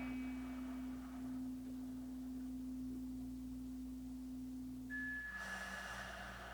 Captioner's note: chimes ringing continues; slow breathing continues